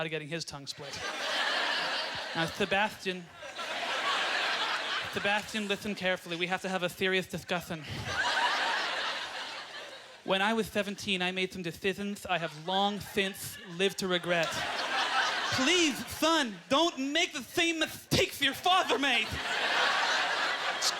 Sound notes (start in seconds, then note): 0.8 audience laughter; 3.9 lisping; 4.5 audience laughter; 10.3 audience laughter; 18.5 audience laughter